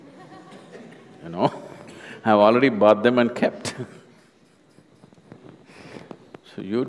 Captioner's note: laughs